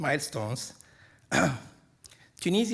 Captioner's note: clears throat